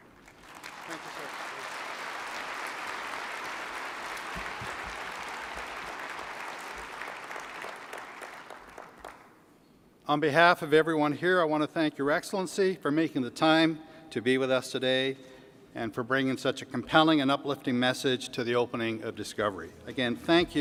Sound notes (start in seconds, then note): 7.6 applause